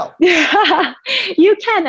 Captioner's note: laughing